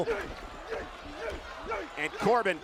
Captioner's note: Corbin grunting